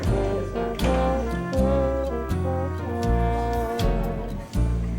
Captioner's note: bluesy trumpet music; diner sounds